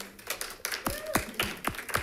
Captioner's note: all clapping